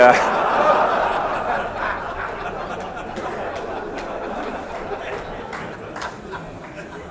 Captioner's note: laughter